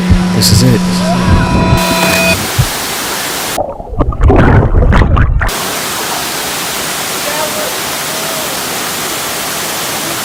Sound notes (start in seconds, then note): 0.9 yelling